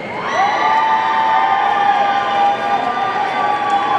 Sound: audience cheering

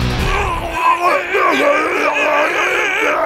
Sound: grunting

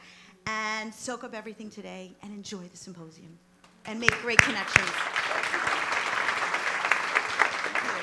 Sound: applause

